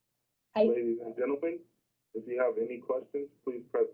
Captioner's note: voiceover